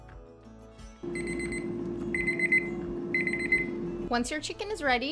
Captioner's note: machine rings